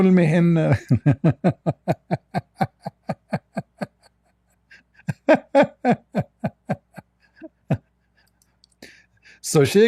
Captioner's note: Ketawa